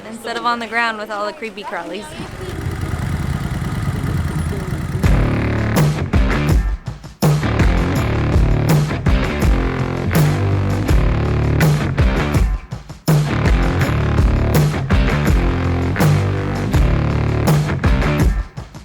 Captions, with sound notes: Instead of on the ground with all the creepy crawlies [motor sound] [rock music playing]